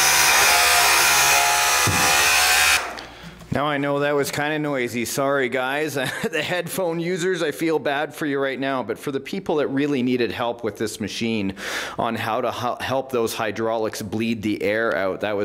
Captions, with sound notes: Now I know that was kinda noisy. Sorry, guys. (laughs) The headphone users, I feel bad for you right now but for the people that really needed help with this machine on how to help those hydraulics bleed the air out,